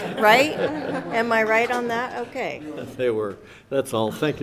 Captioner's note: audience laughs